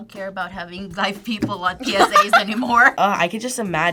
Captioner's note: laughs